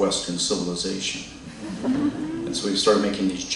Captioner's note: laughter